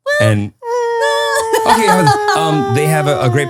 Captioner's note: laughing